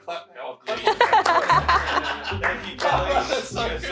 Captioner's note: laughing; crew clapping